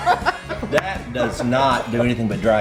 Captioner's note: laughs